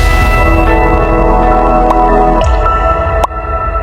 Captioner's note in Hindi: घंटी की आवाज़